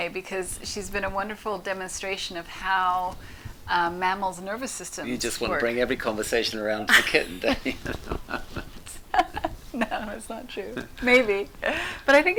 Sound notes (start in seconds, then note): 6.9 both laughing